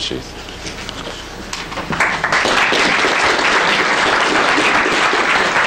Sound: applause

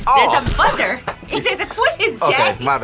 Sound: laughs

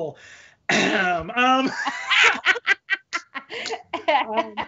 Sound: both laughing

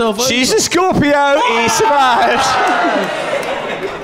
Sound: groans

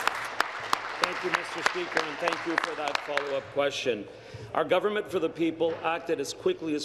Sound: applause

